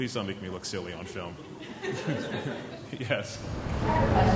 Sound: chuckling

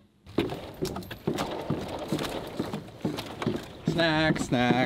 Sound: footsteps clomping

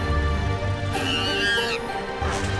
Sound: squawking

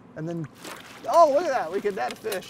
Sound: fish splashing

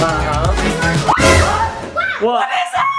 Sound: jump scare sound

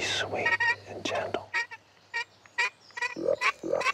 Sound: high pitch turkey call squealing

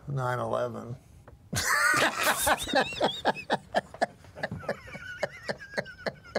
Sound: laughs

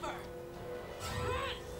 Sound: both grunting

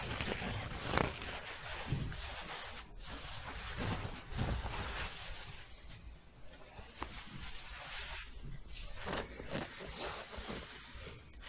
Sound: shuffling, then scratching

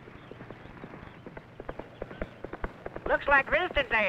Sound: galloping

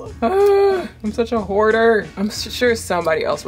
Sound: sighs

